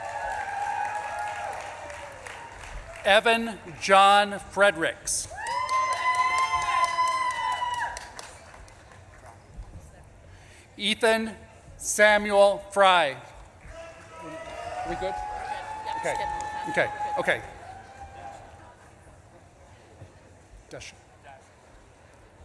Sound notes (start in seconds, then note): 0.0 audience claps and cheers; 13.5 audience claps and cheers; 16.0 speaks faintly